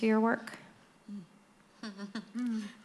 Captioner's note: laughs